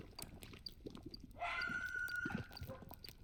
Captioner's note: unknown creature screaming